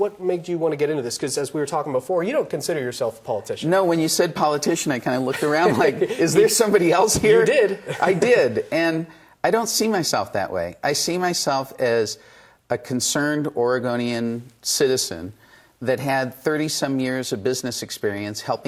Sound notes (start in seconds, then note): 7.7 laughs